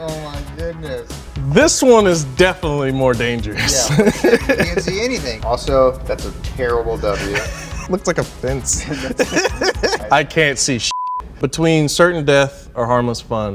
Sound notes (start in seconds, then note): 8.4 men laughing; 10.9 beep